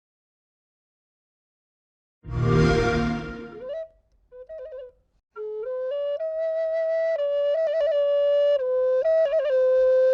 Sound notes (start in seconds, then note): 2.3 Xbox sound